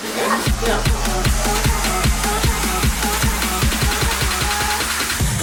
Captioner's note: techno music; saw buzzing